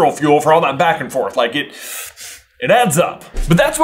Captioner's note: deep breath